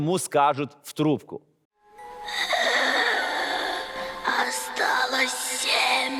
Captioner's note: breathing heavily